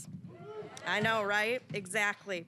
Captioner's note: audience cheering